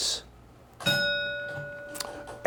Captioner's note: bell ringing